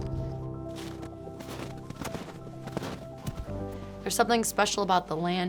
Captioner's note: snow crunching